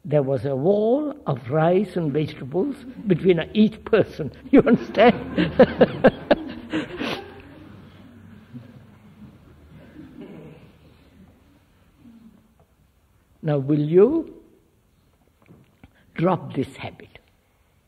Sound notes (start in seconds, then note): 6.9 laughs; 6.9 laughter